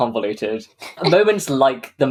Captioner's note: laughs